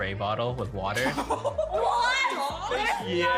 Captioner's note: boy laughing